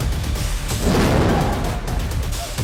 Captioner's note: explosion